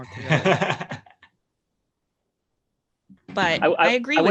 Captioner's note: laughs